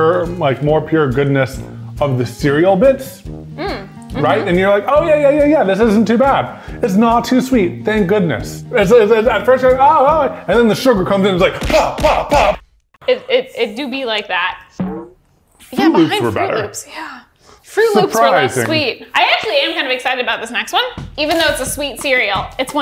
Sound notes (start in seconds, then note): 11.6 fists striking; 14.8 cereal bonks